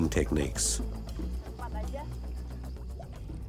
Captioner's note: speaking Austronesian language